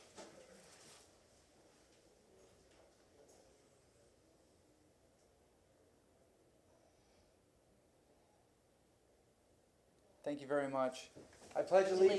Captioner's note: moment of silence